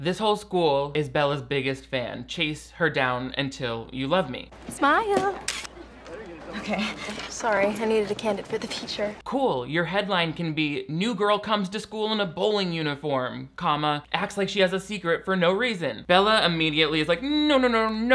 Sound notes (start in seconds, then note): 5.4 camera shutter clicking; 5.7 nervous laughing